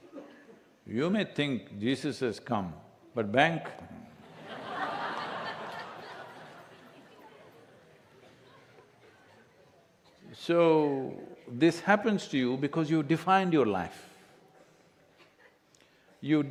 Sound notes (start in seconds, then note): 4.0 laughter